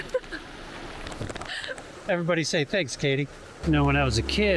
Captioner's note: laughs